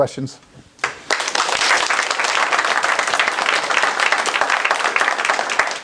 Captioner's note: applause